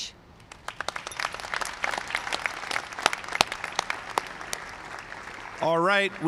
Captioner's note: applause